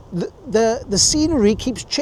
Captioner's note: laughing